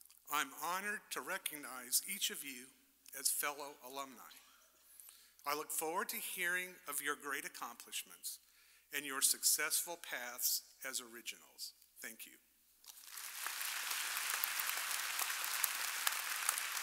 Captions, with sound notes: I'm honored to recognize each of you as fellow alumni. I look forward to hearing of your great accomplishments and your successful paths as originals. Thank you. (audience applauding)